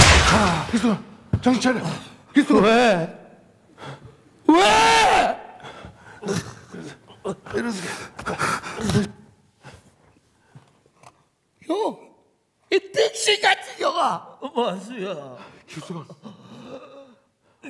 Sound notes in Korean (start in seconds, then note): 7.4 신음소리